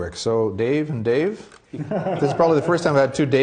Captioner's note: laughing